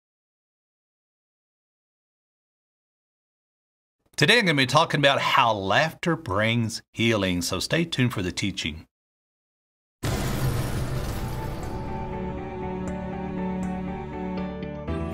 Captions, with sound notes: - Today, I'm gonna be talking about how laughter brings healing, so stay tuned for the teaching. (flames booming) (orchestral uplifting music)